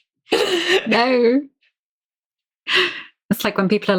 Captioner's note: laughing